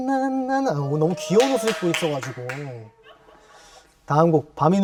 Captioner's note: applause!!!